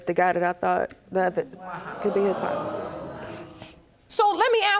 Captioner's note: audience gasping